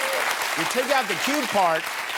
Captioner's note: applause